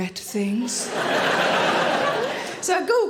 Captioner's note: audience laughing